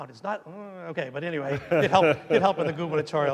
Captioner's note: laughing